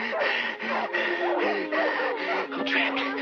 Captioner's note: Bugs Bunny panting